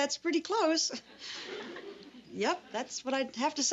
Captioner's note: audience laughs